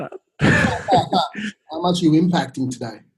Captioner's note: laughing